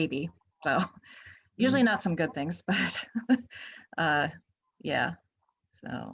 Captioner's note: chuckles